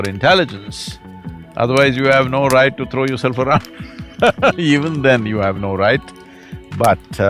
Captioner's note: laughs